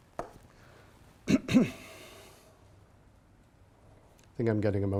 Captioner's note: clears throat